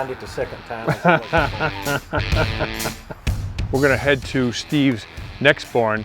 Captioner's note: laughs